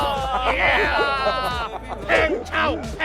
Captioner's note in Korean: 환호